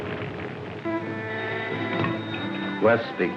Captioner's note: phone rings